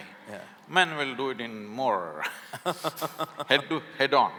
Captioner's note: both laugh